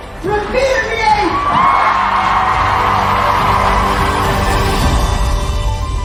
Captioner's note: crowd cheering; gentle music